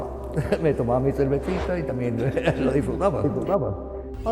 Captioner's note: laughter